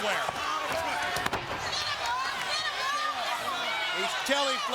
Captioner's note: crowd shouting